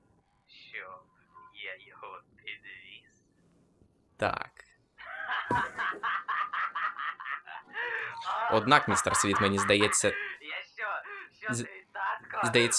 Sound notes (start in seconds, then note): 5.0 raucous laughter; 12.2 laughs